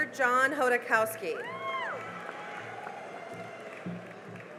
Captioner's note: cheering and applause